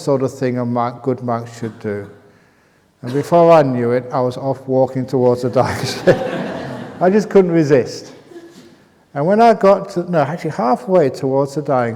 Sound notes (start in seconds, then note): 5.7 laughter